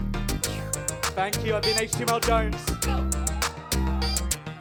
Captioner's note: audience cheers